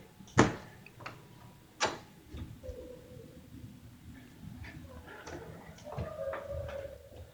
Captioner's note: faint crying far away